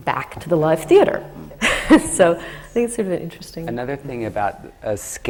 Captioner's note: laughs